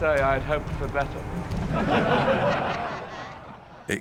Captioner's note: voldemort's followers laugн